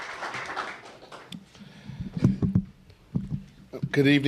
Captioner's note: applause